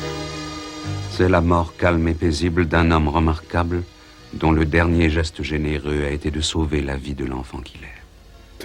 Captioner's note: voiceover